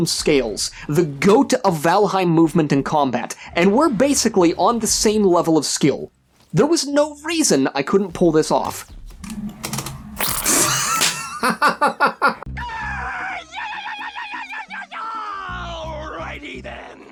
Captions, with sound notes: scales, the go-to of Valheim movement in combat, and were basically on the same level of skill. There was no reason I couldn't pull this off. [Laughter] [Screaming] Alrighty then.